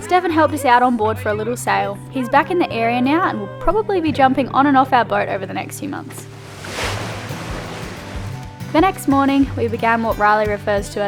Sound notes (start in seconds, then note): none